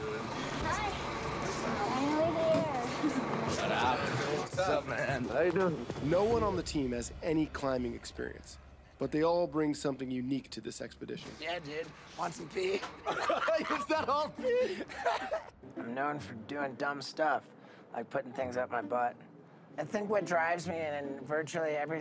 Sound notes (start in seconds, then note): 5.6 voiceover; 12.8 laughing